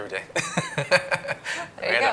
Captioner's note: laughing